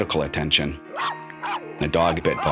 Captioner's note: barking